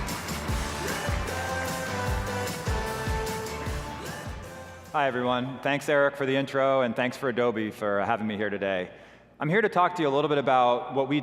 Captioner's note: applause